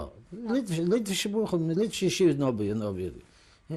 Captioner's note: non-english